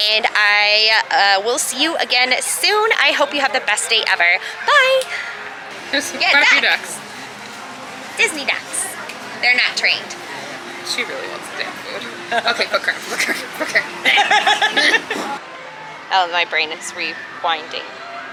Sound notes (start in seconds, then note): 13.0 laughter